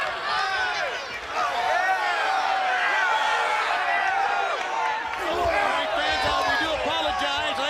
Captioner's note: crowd cheering